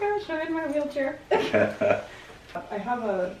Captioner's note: laughs